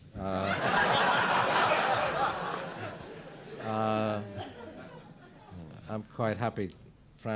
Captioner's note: laughter